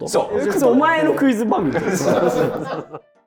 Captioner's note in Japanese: スタッフ：笑い